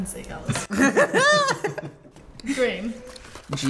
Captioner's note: everyone laughs